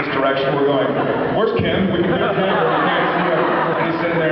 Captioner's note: laughs